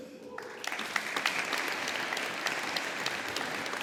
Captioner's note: audience applauding